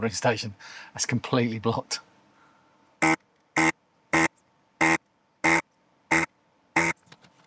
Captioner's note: buzzing